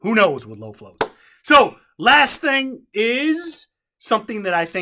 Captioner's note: hands clap once